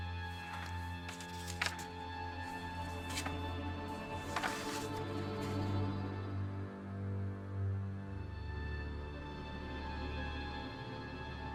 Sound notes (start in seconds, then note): 0.1 pages rustling